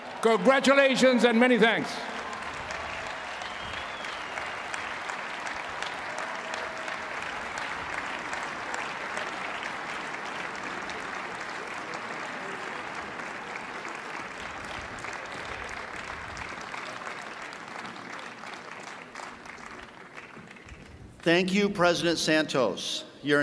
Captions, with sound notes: GO CLASS OF 2023! CONGRATULATIONS AND MANY THANKS! [CHEERS AND APPLAUSE]